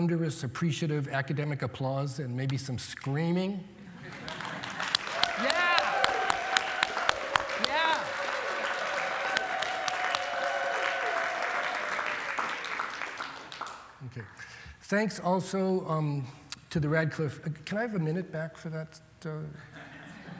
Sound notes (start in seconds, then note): 4.3 applause, cheers